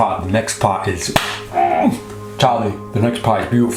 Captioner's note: groaning